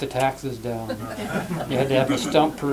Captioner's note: laughter